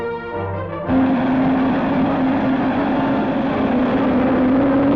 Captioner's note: engine starting